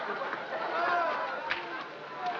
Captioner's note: laughing